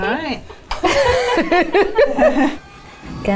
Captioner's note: people laughing